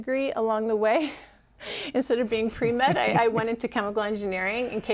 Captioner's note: laughter